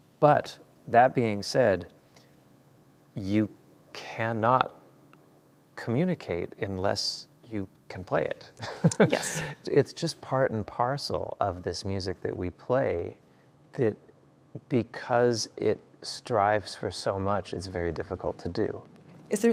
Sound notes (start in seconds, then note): 8.6 laughs